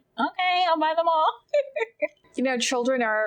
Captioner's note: laughing